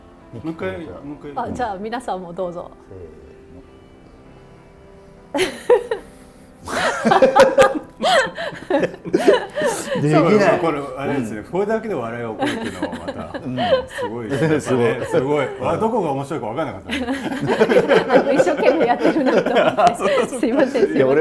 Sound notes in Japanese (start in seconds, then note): 6.0 呼吸音